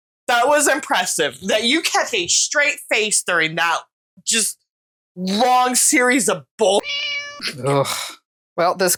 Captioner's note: meow